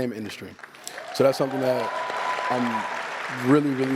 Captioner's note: applause